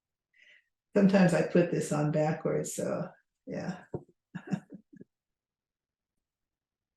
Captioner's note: chuckles